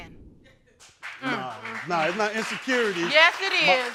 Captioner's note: crowd applauds